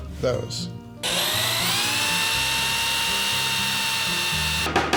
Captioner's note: drill whirs